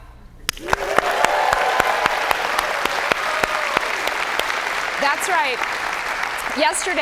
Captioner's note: applause